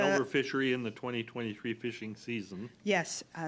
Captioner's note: coughing